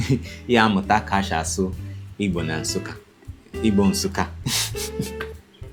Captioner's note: in Igbo